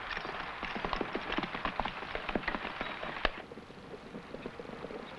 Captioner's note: horse hooves pattering